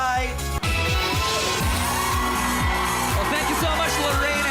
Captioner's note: upbeat music playing; loud cheering